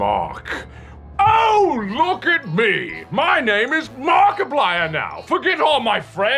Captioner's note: COLONEL, mockingly